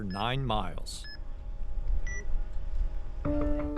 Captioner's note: beeping sound